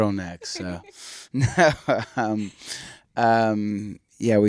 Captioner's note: laughs